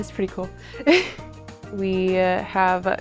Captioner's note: chuckles